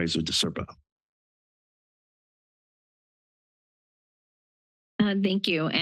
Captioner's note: silence